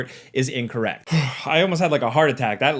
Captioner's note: sighing